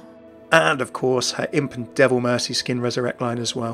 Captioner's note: voiceover